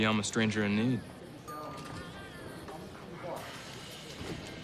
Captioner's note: elevator bell dings